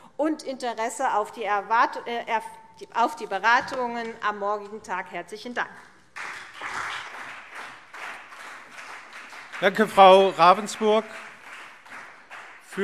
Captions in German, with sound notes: Wir warten mit Interesse auf die Beratungen am morgigen Tag. - Herzlichen Dank. [Beifall CDU und BÜNDNIS 90/DIE GRÜNEN] Danke, Frau Ravensburg.